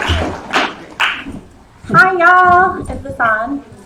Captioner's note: clapping